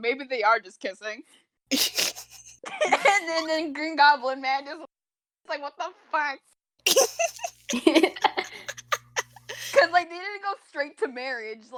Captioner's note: giggles; laugh